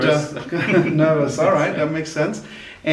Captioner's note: laughing